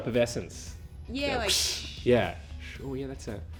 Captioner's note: both make fizz sound